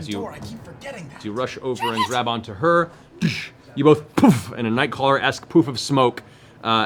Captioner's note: poof!